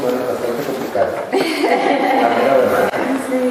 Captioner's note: laughter